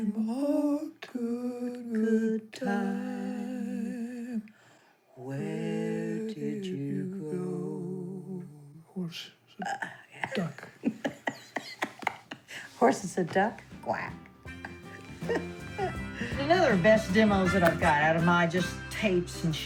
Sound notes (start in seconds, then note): 10.2 laughing; 13.6 upbeat music